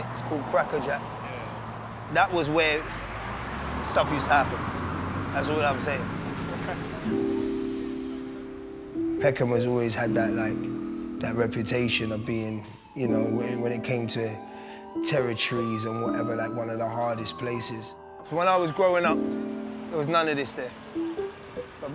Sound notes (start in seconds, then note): 6.5 laughs; 7.8 piano music